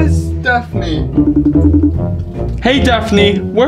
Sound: phone rings

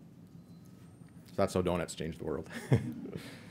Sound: laughs

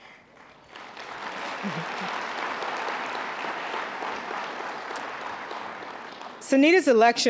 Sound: applause

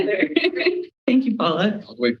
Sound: chuckles

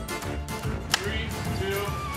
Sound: clapboard clacks

